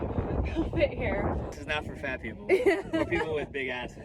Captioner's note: laughs